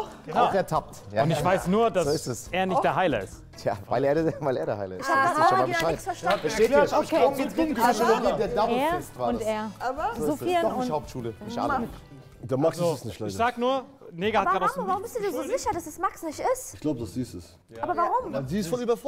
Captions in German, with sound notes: Auch ertappt. - Ich weiß nur, dass er nicht der Heiler ist. Weil er der Heiler ist. - Ich hab nichts verstanden. (Stimmengewirr) Er und er. Der Max ist es nicht, leider. Ich sag nur, Negah hat mich grad aus dem Nichts beschuldigt. Warum bist du dir so sicher, dass es Max nicht ist? Ich glaub, dass es sie ist. - Aber warum?